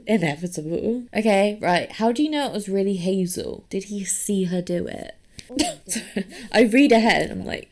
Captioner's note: laughs